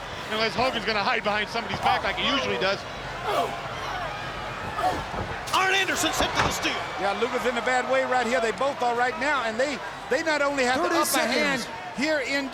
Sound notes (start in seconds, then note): 3.2 crowd cheering; 4.6 blows thudding